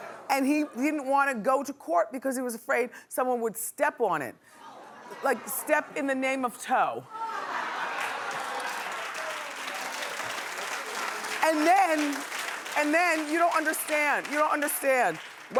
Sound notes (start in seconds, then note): 7.1 laughing; 7.9 clapping